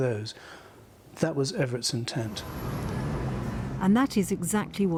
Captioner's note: traffic whizzing